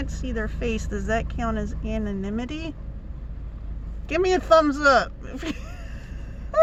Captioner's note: laughs